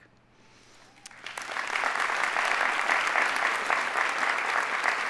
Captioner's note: audience applauding